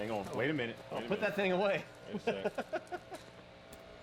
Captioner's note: laughs